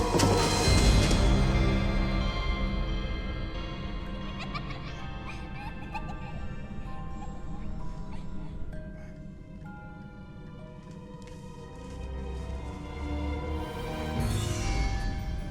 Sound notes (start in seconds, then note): 3.6 children laughing; 4.0 eerie music playing